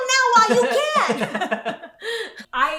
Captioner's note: laughing